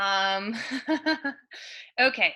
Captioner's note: laughs